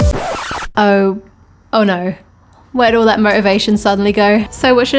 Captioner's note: record Scratch